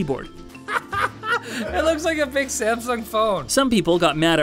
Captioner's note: laughs